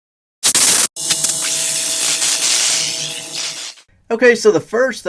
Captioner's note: electrifying sounds